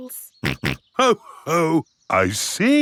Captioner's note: snorts